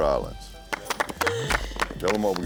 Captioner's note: applause